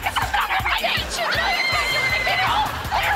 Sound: screaming

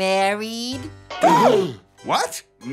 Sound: gasping

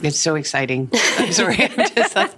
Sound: laughing

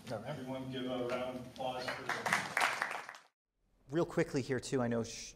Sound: applause

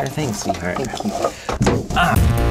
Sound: thump

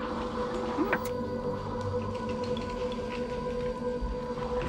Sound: TV fizzes

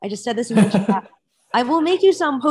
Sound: laughs

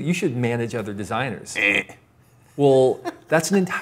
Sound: mimics a buzzer

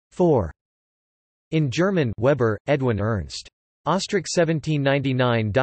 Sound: in German

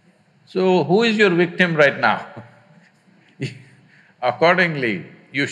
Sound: laughs

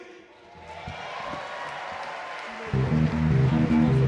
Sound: audience cheer and clap; mid tempo music

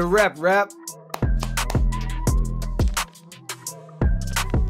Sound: upbeat music; claps

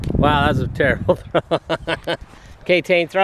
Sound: laughing

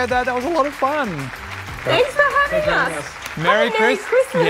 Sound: applause

